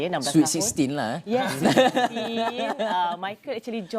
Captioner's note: laugh